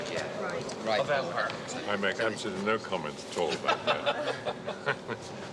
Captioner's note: laughs